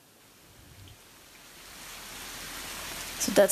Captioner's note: rain sounds